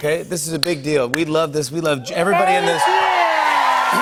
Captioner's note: cheers and applause